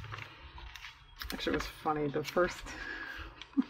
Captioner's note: laughs